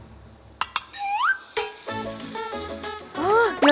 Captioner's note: sizzle